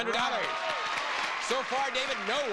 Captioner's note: audience applauding